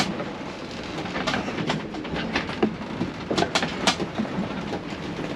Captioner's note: creaking, grinding